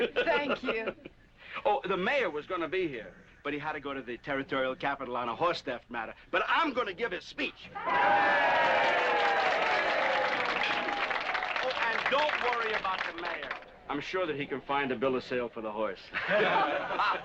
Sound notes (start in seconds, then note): 7.7 crowd cheering